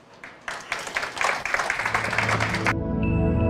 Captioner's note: audience applauds; calm music